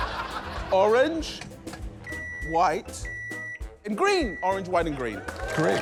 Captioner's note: laughter; microwave beeps; cheering, applause